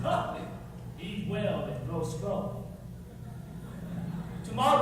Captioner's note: laughter